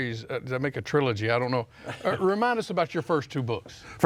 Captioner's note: chuckles